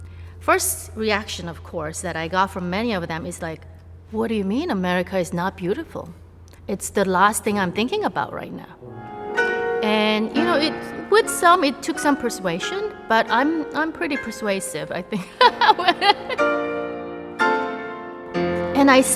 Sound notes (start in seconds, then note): 15.2 laughs; 16.8 piano music playing